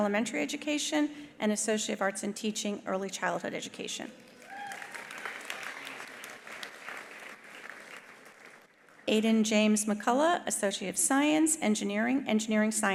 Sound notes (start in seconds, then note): 4.2 attendees applauding; 4.3 attendees cheering